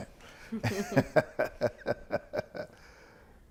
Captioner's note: laughing